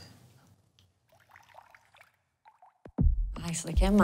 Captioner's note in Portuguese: barulho de líquido escorrendo